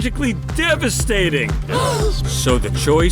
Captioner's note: gasp